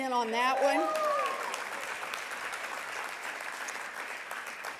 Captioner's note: audience applauding